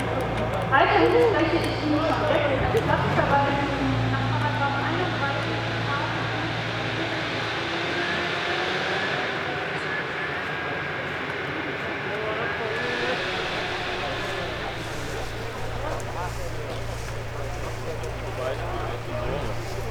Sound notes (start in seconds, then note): 13.0 chainsaws